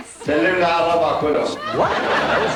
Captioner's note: speaking arabic